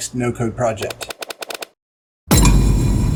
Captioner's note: logos clicking; logo banging